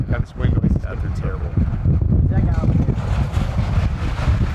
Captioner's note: wind blowing loudly